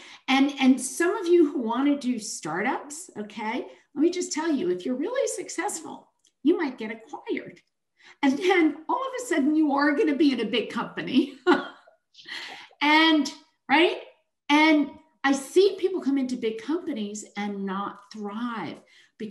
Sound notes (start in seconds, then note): 12.5 chuckles